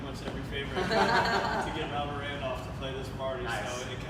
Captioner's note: laughing